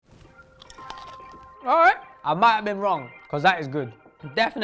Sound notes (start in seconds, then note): 0.0 crunching